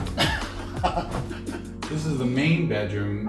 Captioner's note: laughs